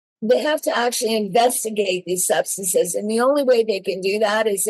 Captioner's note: none